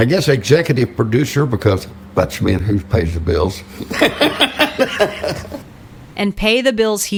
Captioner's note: laughs